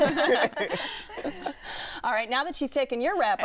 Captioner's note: laughter